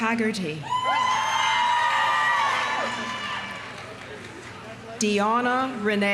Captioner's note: audience cheering; audience applauding